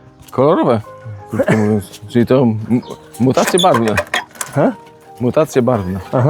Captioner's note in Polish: śmiech